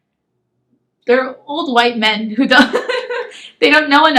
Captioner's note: laughs